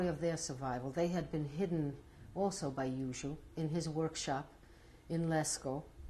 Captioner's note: non-english